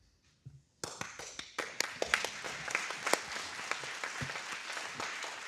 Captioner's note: audience applauding